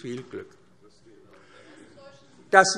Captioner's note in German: Zurufe DIE LINKE